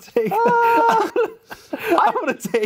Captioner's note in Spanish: ríe